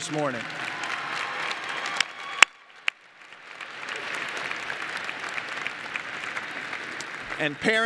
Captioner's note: applause